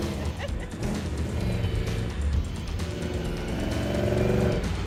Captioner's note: laughs; engine revving